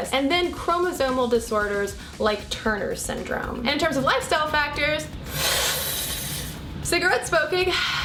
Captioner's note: inhaling sound